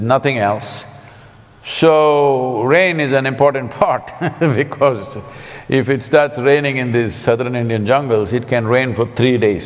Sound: laughs

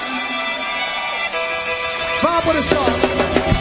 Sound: audience cheering

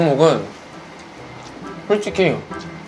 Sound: chewing

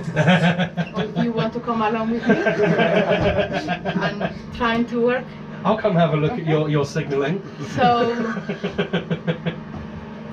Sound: laughter

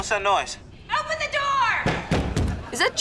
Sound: thudding

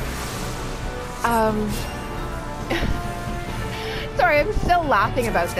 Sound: giggles

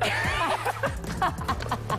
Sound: laughter

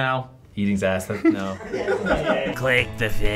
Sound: everyone laughs

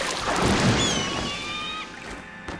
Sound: squawking

